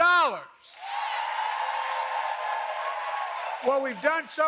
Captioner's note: applause